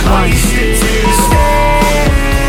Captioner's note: beep; upbeat music